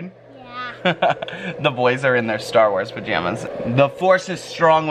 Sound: laughs

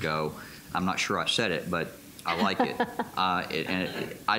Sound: laughter

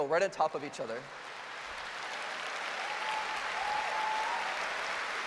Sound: applause

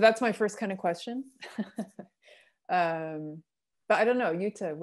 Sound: laughter

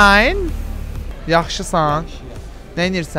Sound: in Azeri

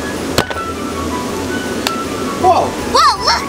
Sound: pop

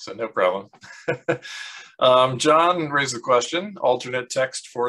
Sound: laughs

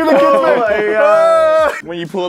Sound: sounds of agony

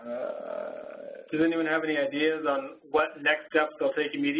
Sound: voiceover

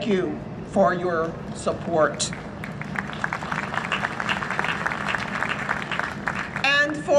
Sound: applause

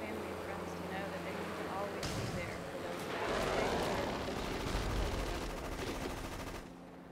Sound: war noises

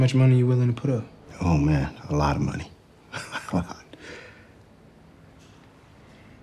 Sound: laughing

